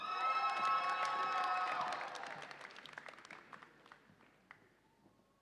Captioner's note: audience applauds and cheers